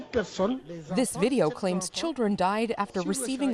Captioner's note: speaking Foreign Language